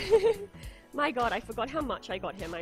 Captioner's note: laughs